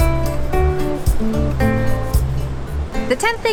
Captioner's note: distant waves crashing